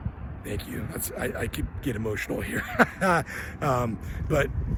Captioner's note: laughs